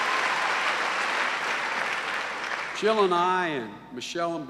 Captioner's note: cheering and applause